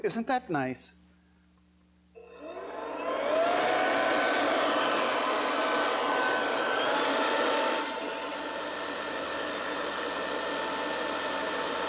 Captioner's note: leaf blower turns on